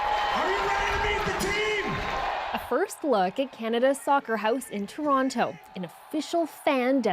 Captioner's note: cheers and Applause